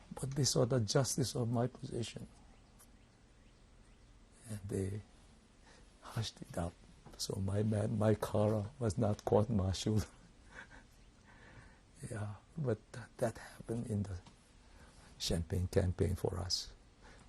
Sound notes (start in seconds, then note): 10.5 laughs